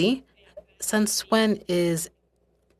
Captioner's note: speaking french